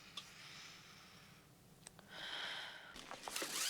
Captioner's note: sighs